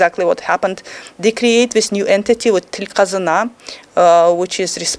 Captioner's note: speaking foreign language